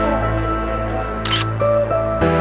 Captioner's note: photo click